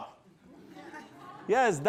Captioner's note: laughter